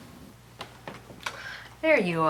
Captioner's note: door clicks